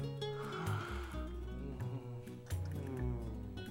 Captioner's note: inhaledeeply; sighs